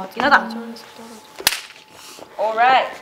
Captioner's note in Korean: 짝!